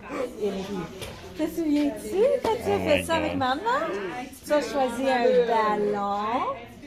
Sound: people in video speaking French

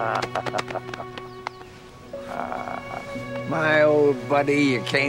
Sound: laughing

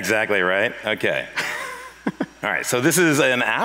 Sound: laughs

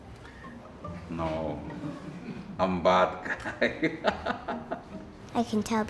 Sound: laughs

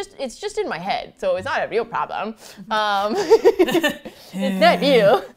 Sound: laughs; laughs and sighs

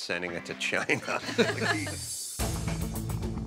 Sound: chuckles

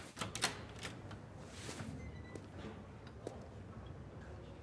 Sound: door clatters

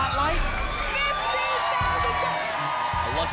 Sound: cheering

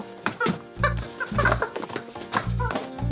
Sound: rubber chicken squeaking; gentle music

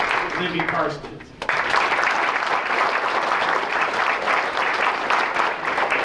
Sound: applause

